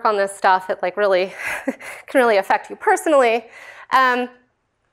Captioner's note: laughter